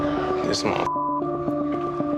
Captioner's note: beep